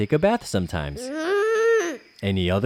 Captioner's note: frustrated groan